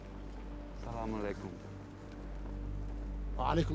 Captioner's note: speaking in arabic